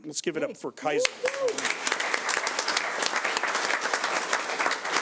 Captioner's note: audience applauds